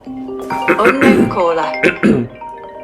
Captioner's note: iPhone Ring Tone